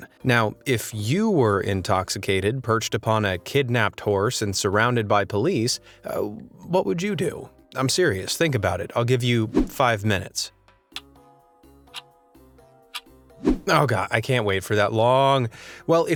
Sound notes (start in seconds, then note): 11.9 clock ticking